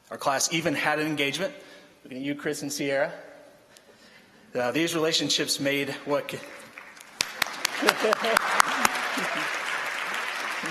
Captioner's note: applause